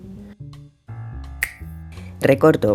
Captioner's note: snap